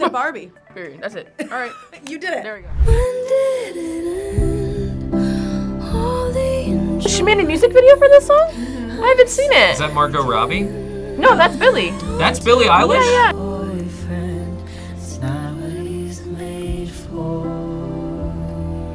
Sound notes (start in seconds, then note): 2.1 laughs